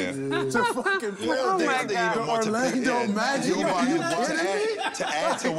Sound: overlapping chatter

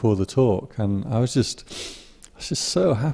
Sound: breath

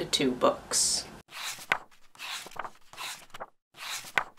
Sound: pages turning

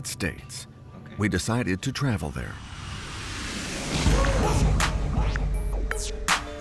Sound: plane engine running; catchy instrumental music

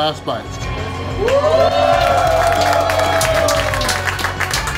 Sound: crowd clapping and cheering

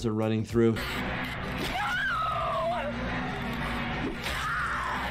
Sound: victim screams

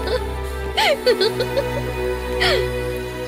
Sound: laughs

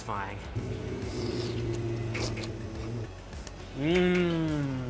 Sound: slurping

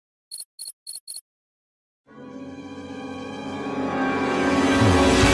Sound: computer clicking

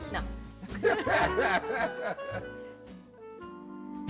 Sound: laughter

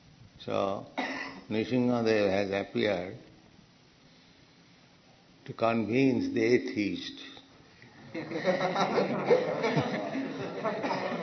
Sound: laughter

